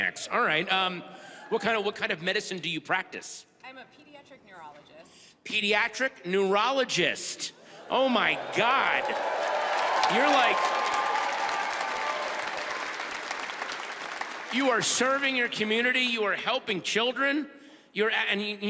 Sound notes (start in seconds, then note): 8.0 audience whoop; 8.2 audience applauds and cheers